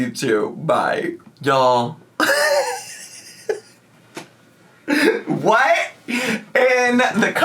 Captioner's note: laughing